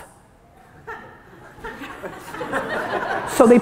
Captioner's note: audience laughter